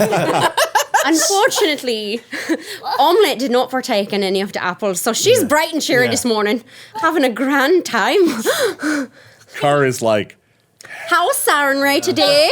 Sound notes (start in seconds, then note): 0.0 everyone laughing; 10.7 sigh